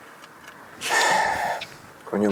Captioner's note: breathes